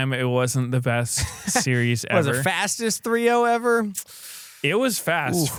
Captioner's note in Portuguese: risos